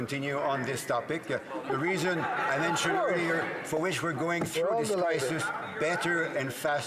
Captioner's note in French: voix de l'interprète